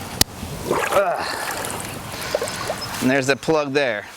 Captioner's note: water drops